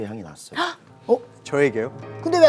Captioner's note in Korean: 놀라는 소리